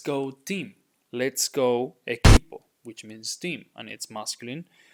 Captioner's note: speaking in Spanish